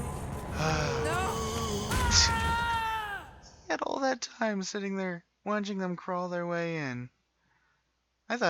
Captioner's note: sigh in disbelief